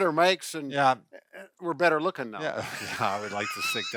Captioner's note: laughs